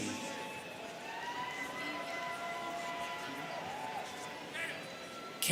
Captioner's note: students cheering